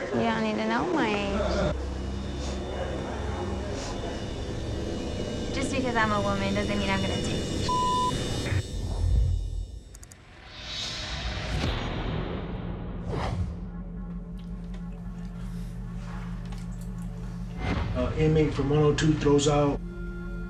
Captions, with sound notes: Just because I'm a woman it doesn't mean I'm going to take any (beep). - Inmate from 102 throws out their laundry bag.